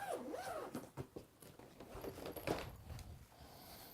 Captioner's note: zipper unzipping